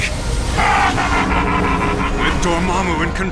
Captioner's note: laughs